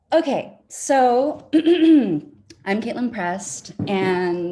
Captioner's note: clears throat